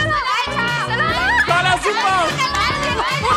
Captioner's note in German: Anfeuerungen